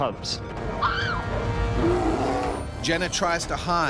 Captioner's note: woman screams; voiceover